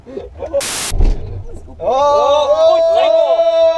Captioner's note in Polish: dżwięk gasnącego silnika